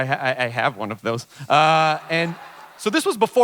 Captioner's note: audience chuckles